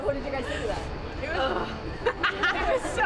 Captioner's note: laughter